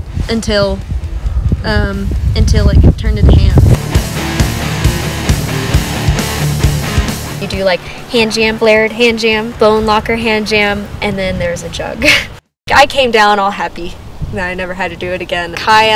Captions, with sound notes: until it turned into hand. (dramatic rock music) You do like, hand jam, flared, hand jam, bone locker, hand jam, and then there's a jug. (laughs) I came down all happy that I never had to do it again.